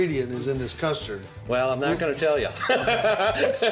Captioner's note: laughing